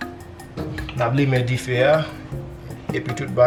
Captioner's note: speaking Kreyol